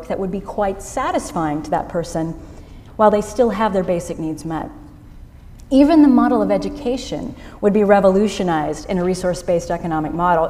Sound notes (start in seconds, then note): none